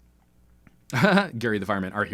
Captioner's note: laughter